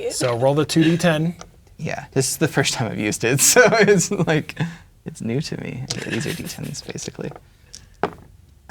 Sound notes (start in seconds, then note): 3.4 laughing; 7.7 dice rolling